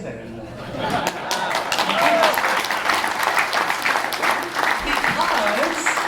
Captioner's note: applause